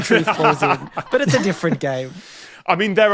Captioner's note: others laughing